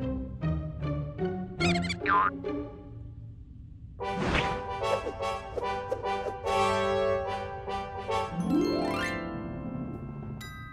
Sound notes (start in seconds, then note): 1.6 mouse squeaks